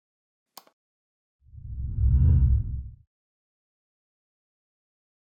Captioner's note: text whooshes